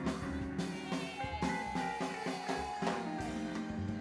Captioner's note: cheering